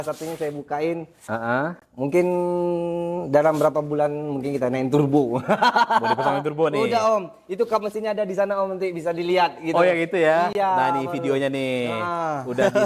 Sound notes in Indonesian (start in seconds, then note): 5.5 tertawa